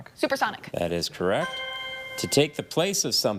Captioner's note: chime resonating